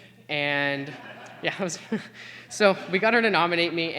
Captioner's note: laughter